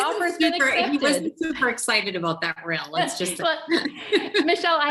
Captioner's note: chuckles